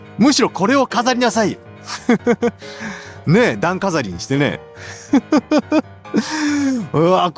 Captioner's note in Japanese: 笑い